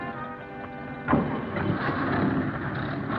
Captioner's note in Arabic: صوت طرقات باب السيارة; محركات السيارة تدور